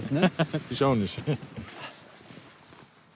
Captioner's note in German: lacht